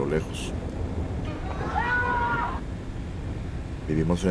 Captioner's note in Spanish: Grito en la lejania